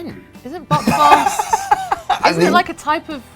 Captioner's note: laughs